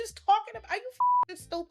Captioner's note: beep